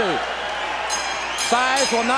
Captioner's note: bell ringing